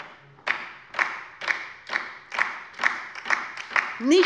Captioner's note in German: Beifall bei der LINKEN